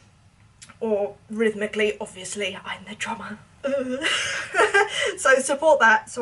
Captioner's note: laughs